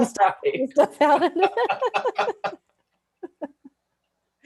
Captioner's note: laughter